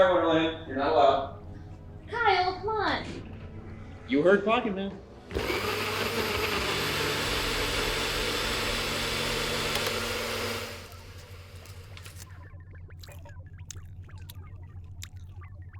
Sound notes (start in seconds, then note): 5.3 blender whirring; 12.0 computer screen beeping